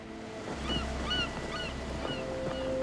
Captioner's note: gulls calling